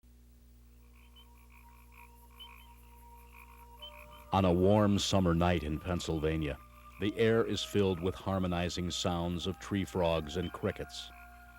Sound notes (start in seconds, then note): 0.8 frog and crickets chirping; 0.8 mellow orchestral music